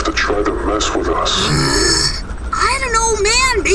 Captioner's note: Ash groans, annoyed